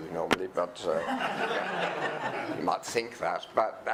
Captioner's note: audience laughing